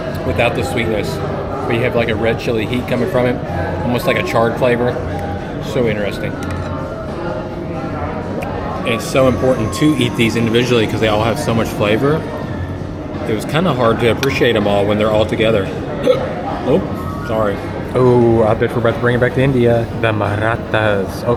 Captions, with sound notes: Without the sweetness, But you have like a red chili heat coming from it, Almost like a charred flavor So interesting And it’s so important to eat these individually Because they all have so much flavor It was kind of hard to appreciate them all When they're all together *hiccups* Oop Sorry! Oooohhhh I bet we’re about to bring it back to India “The Marathas”